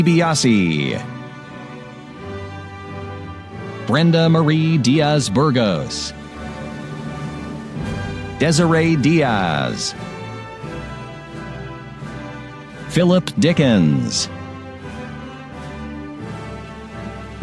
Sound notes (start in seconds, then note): none